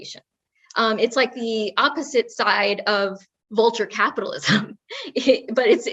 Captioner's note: laugh